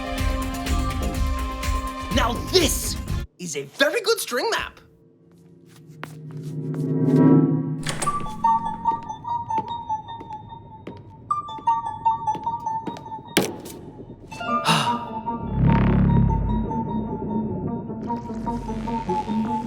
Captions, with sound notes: Now, this is a very good string map. (Gasps)